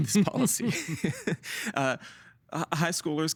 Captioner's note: laughing